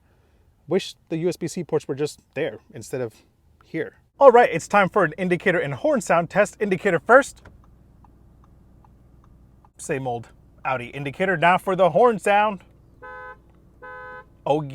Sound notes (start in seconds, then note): 7.3 indicator clicking; 12.9 horn honking